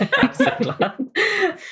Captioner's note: laughing; laughs